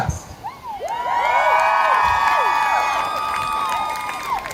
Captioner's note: crowd cheering